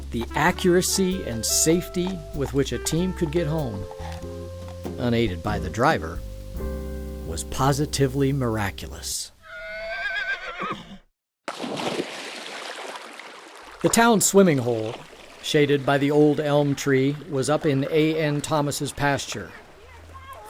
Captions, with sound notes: The accuracy and safety with which a team could get home...unaided by the driver, was positively miraculous. (horse whinnying) (splashing water) The town swimming hole, shaded by the old elm tree, was up in A. N. Thomas's pasture. From